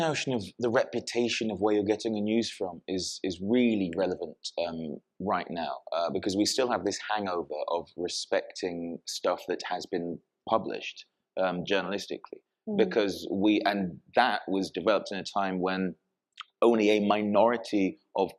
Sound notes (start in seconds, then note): none